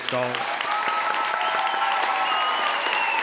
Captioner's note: audience cheering; audience clapping